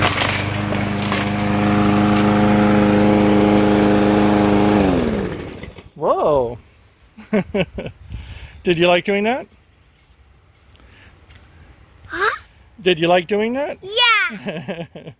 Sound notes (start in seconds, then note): 4.8 lawnmower shuts off; 7.2 laughs